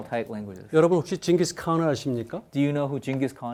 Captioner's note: speaking in Korean